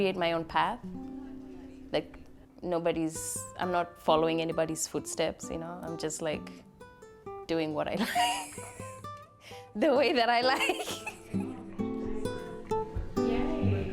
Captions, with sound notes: create my own path. Like, nobody's. I'm not following anybody's footsteps, you know? I'm just, like, doing what I like. The way that I like. [Laughs]